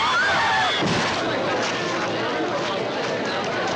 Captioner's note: woman screams; audience gasps